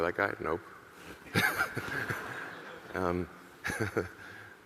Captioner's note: laughs; audience laughing